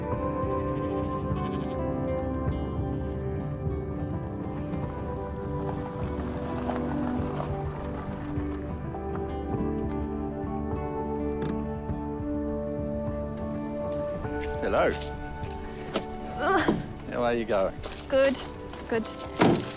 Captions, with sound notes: (SHEEP BLEAT) (BIRDS CHIRP) (HANDBRAKE GRINDS) - Hello. - (GRUNTS) - How are you going? - Good. Good.